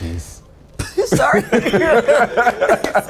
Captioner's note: all laugh